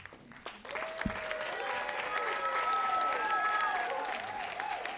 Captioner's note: cheers and applause